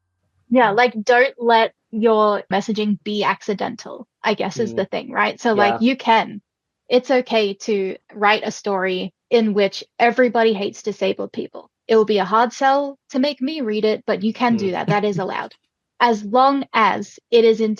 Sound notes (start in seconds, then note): 14.4 laughs